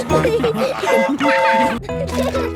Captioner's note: train whistle toots